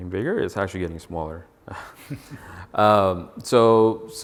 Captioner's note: chuckles